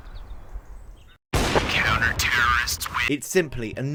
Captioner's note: gunshot